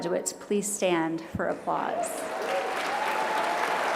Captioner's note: applause